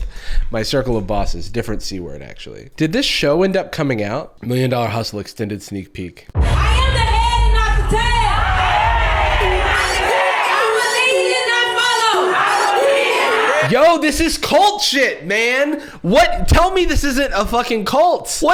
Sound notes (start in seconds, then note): 8.4 crowd cheers; 12.4 crowd